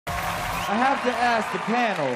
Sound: cheering and applause

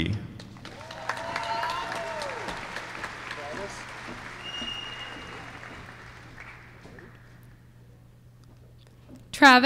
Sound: applause

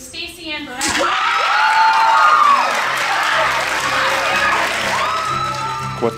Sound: cheers and screaming

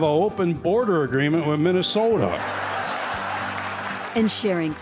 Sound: laughter

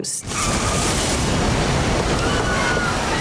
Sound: leaves rustling; passengers screaming

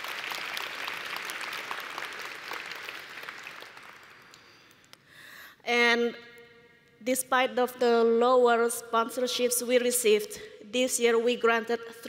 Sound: applause

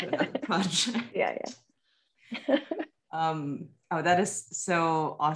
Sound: chuckles

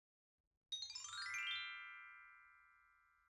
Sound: chime sound

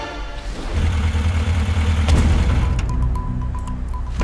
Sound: engine rumbling; suspenseful music

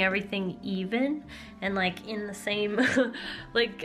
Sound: laughter

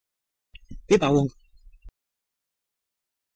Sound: fast Pronunciation

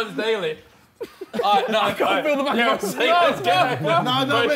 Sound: group chattering

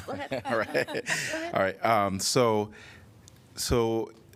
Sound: laughter

